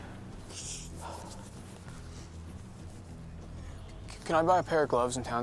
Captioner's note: blows breath